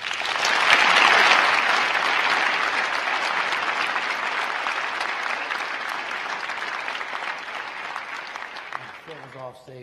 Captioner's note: crowd applauding